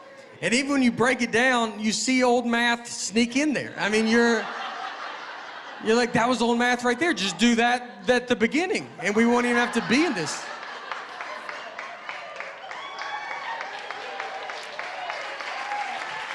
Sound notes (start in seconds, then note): 3.8 laughter; 10.6 laughter and applause